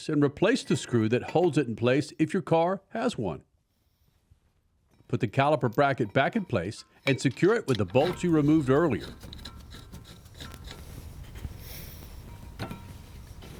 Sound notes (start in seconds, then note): 9.3 bolts rattling